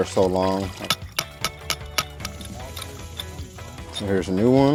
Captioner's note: hammering sounds